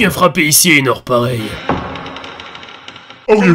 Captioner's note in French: Grincement de porte résonnant